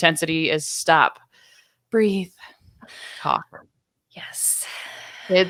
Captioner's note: breathing deeply